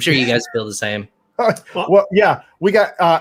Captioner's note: laughs